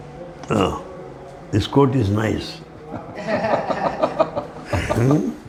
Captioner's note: Risata